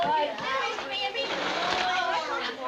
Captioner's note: girls grumbling